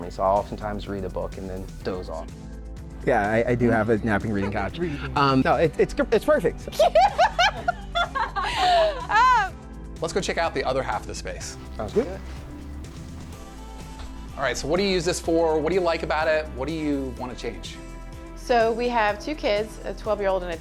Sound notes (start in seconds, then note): 6.7 laughs